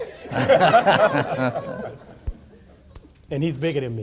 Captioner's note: audience laughing